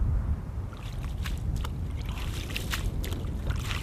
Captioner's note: sloshing